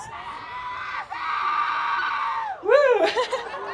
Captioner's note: someone in the crowd cheers loudly; laughing and cheering